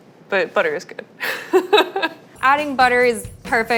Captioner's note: laughing